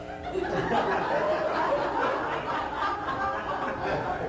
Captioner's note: laughter